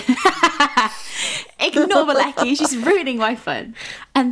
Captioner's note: laughing